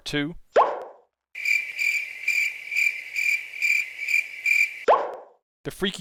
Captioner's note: crickets